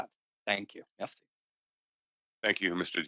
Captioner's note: speaking French